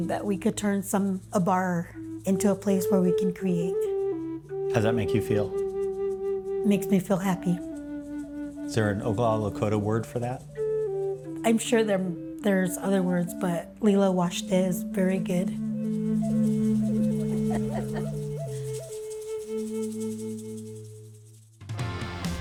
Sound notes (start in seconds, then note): 13.7 foreign language; 18.8 soothing indigenous music